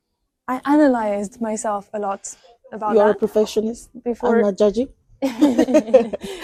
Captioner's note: laughs